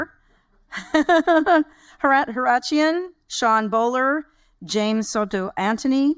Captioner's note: laughs